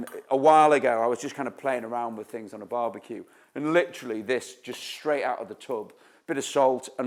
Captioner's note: none